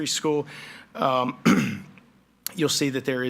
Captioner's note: clears throat